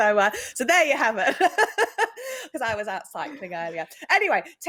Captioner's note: chuckles